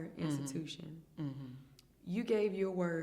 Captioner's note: hums in agreement